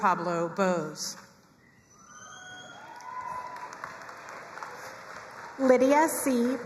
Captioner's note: crowd cheering and applauding